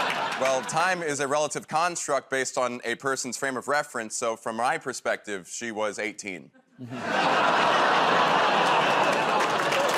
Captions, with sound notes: -Well, time is a relative construct based on a person's frame of reference. So from my perspective, she was 18. [ Audience groans ]